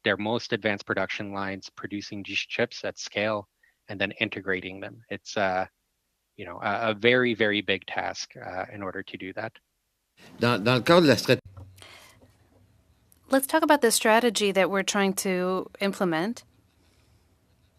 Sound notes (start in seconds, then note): 15.0 speaking French